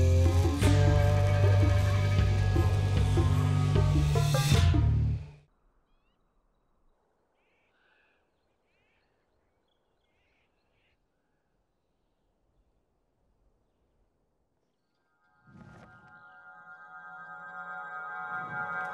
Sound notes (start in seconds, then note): 7.2 birds calling; 15.5 fabric flapping